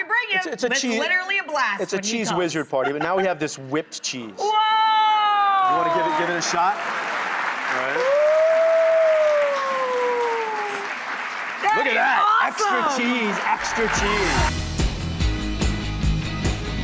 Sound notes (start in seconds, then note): 6.3 audience clapping; 12.8 upbeat music